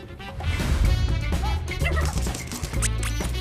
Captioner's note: bright music; puppies barking; squeaky toy squeaks